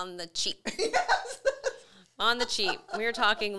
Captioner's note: laughs